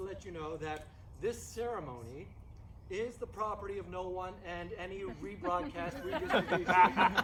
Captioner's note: laughing